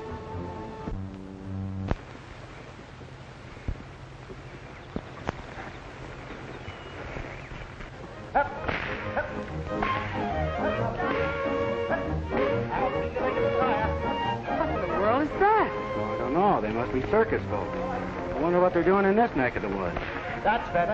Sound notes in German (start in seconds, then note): 8.5 Peitsche knallt; 8.8 Mann schreit; 12.3 verspielte Musik